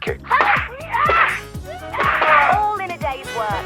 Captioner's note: punches thudding